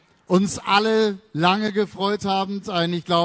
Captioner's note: speaks in German – not transcribed